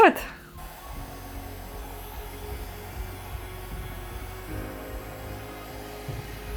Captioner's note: blower whooshing; gentle music